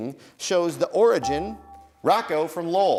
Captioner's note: dinging